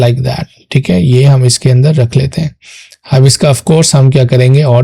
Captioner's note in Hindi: नाक से की जाने वाली आवाज़